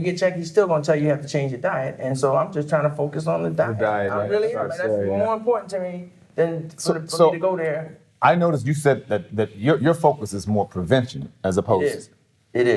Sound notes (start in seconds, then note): none